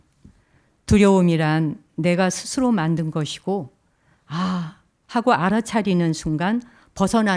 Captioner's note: speaking in Korean